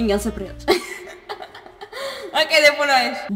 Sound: more laughter

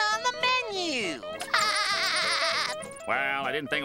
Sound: laughing

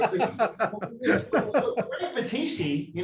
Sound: laughs drowns the speaker

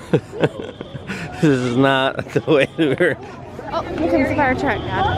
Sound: laughing

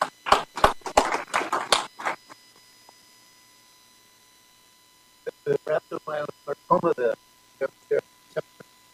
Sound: applause

